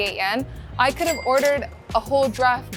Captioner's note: chime ringing